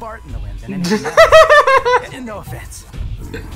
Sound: laughter

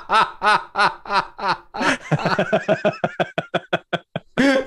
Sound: laughter

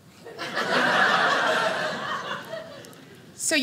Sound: audience laughing

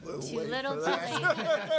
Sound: laughing

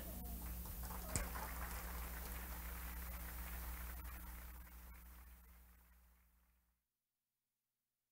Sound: laughter; applause

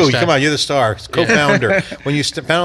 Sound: laughing

